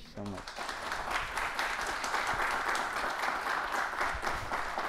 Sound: applause

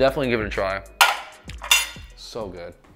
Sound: crockery clattering

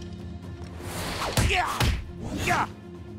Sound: grunting

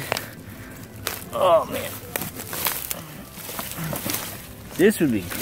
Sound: sticks breaking

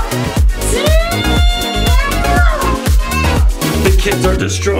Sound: shouts

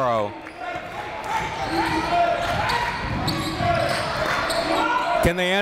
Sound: crowd

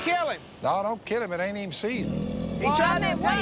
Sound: growling

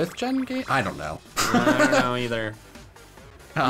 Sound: laughs

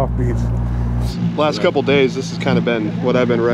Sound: boat engine running

